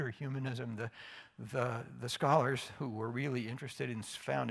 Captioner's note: none